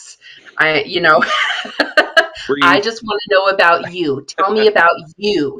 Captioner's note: laughing